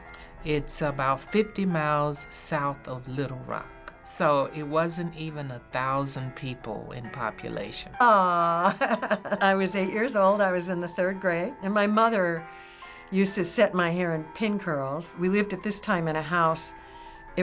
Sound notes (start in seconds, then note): 8.6 laughing